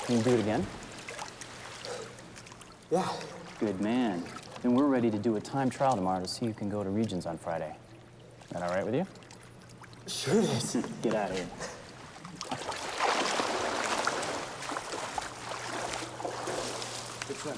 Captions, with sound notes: Can you do it again? - Yeah. - Good man. Then we're ready to do a time trial tomorrow to see who can go to regions on Friday. That all right with you? - Sure it is. - Get outta here. (water splashes)